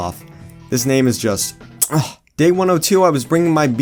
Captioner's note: chef’s kiss